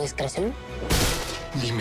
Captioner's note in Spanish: Golpetazo